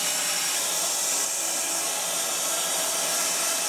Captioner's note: saw whirring